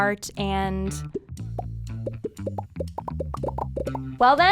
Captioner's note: popping